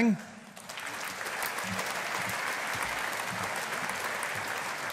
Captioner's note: audience applauding